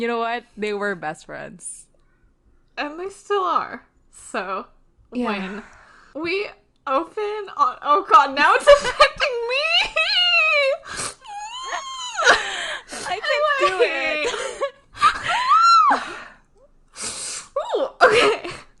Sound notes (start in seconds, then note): 6.3 laughing; 11.5 screams; 15.3 screams